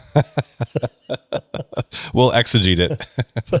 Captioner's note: laughs